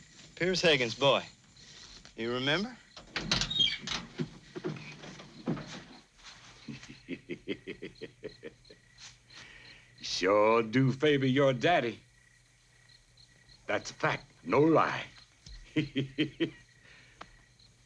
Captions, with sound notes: Peerce Hagan's boy, you remember? (car door creaks) (Booker laughs) - You sure do favor your daddy. That's a fact. No lie. (laughs)